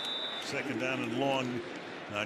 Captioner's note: whistles